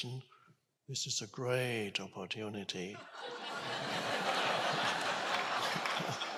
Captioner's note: audience laughing